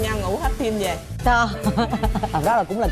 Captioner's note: laughing